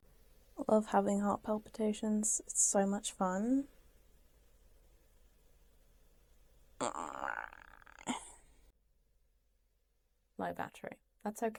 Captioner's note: groans